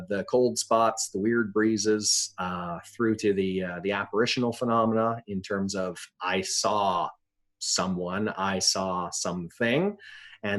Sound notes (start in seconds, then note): none